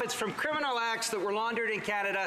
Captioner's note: some Applause